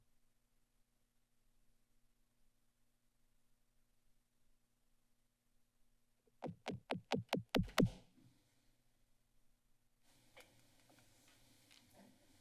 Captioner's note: silence